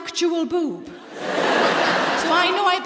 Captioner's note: laughter